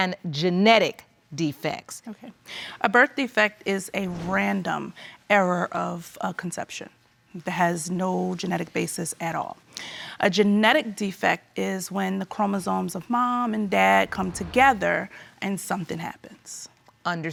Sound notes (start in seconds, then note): none